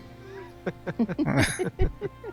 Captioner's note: chuckling